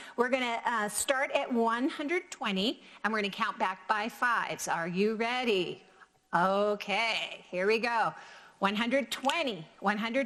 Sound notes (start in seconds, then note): none